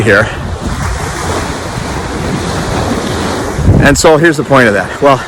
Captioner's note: waves splashing